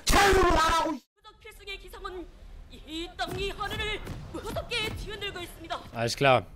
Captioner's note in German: Asiatisches Hintergrundgelabere